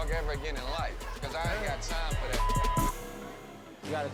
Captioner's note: beep